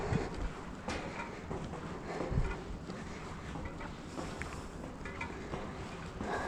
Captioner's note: heavy breathing